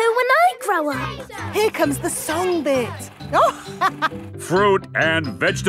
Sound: chuckling

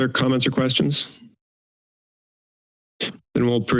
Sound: silence

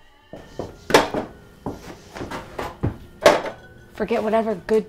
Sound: beers clanking

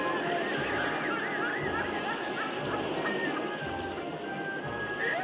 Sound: mechanical Doll Cackling

